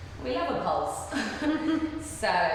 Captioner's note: laughing